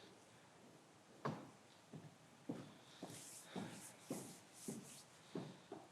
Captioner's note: footsteps approaching